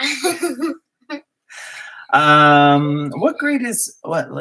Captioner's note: laugh